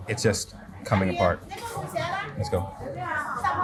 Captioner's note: person speaks in foreign language